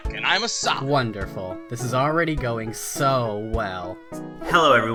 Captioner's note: sarcastically